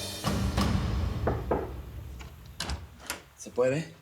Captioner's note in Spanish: Toques en la puerta